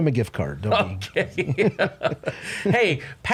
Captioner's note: laughs